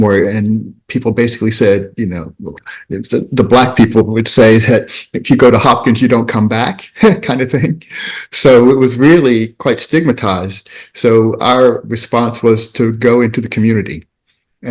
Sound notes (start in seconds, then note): 6.8 chuckles